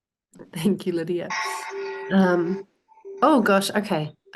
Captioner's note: bell chime